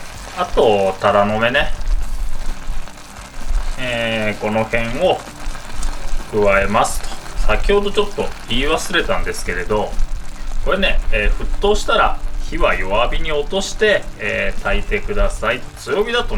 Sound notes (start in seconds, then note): 14.5 flame